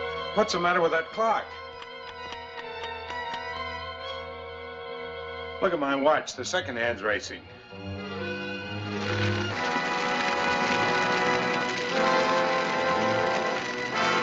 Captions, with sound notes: What's the matter with that clock? Look at my watch, the second hand's racing. [Crackling]